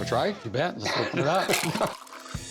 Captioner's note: laughs